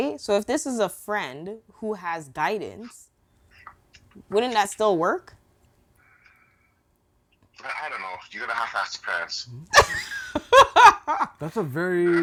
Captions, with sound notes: So if this is a friend who has guidance, wouldn't that still work? - I don't know. Do you ever have asked parents? (laughing) That's a very.